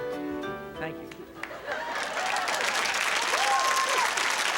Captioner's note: audience applause